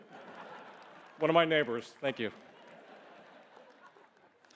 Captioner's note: laughter